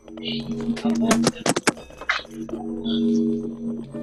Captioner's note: chattering